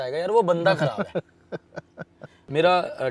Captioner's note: Laughing